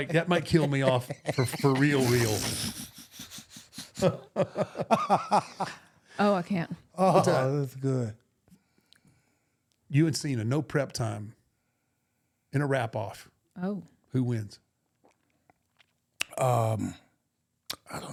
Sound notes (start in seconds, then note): 3.1 chuckling